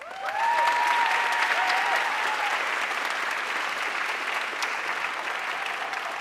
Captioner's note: audience cheering and applauding